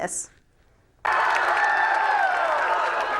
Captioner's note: crowd cheering